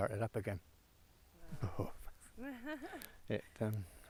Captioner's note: shudders; Lara laughs